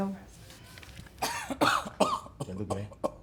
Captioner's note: speaks in foreign language; coughing; speaks in foreign language